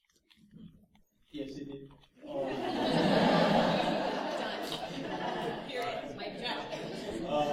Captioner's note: laughter